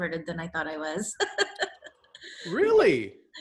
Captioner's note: laughs